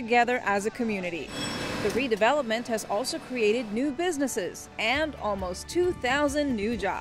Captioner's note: construction noise